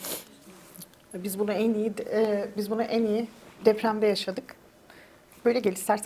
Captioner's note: speaks in Turkish